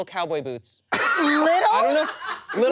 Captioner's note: laughter